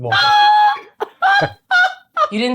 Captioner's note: laughing; laughs